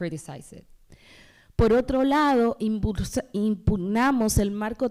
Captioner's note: speaking spanish